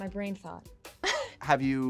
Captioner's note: laughing